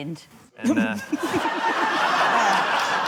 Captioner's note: snickers; laughter